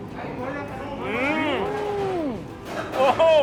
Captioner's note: moaning